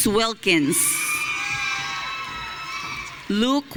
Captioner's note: audience cheering